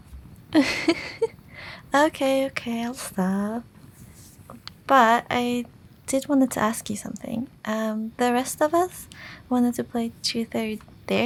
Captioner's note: chuckle